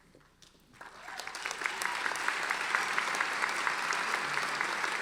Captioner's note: audience applauding